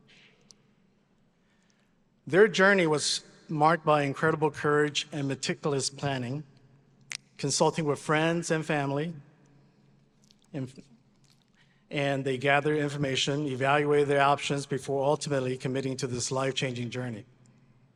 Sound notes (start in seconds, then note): none